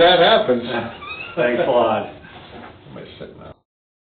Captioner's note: laughs